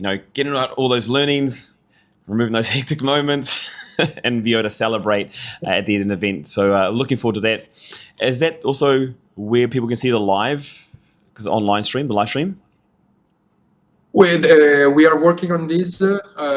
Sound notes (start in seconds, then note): 3.4 laughs